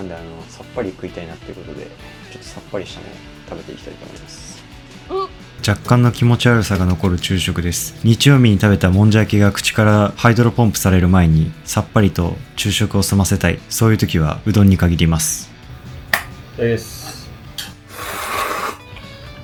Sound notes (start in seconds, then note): 17.6 slurp